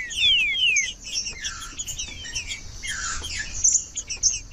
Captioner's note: trinca ferro cantando